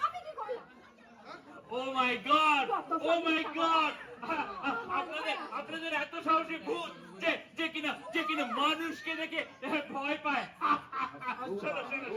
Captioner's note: laughs hysterically